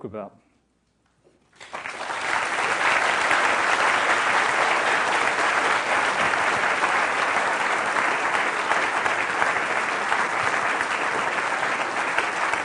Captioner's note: applause